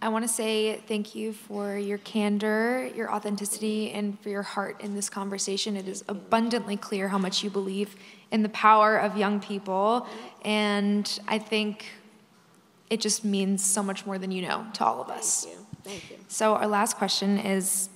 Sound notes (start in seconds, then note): none